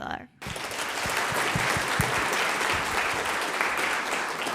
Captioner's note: audience applauding